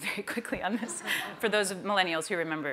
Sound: laughter

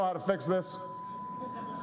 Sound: laughter

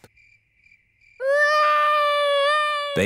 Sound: baby alexander crying

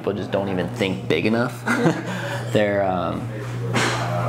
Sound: laughing

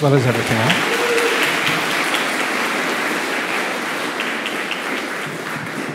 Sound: applause

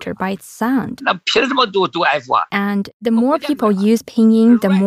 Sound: speaking Mandarin

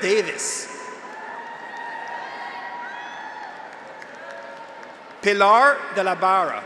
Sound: graduates cheer; audience applauds

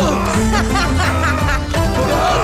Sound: laughs

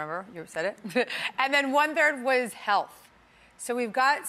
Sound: Gabby laughs

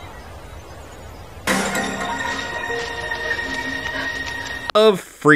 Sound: running girl noises

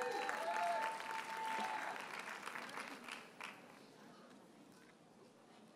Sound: audience cheers and applauds

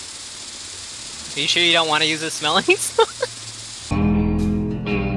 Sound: laughing

